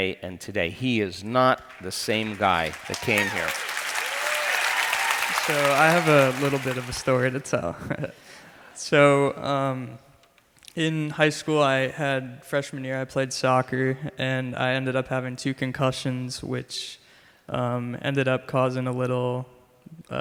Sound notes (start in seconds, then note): 3.9 crowd cheers and applauds; 8.3 giggles